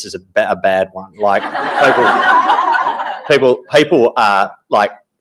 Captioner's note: audience laughing